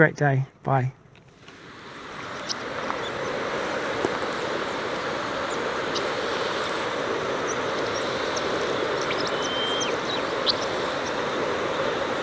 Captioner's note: wind noise and birds chirping